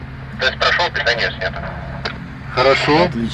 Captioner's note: WALKIE-TALKIE VOICE: — Test completed. Power supply switched off